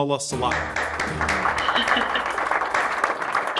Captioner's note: applauds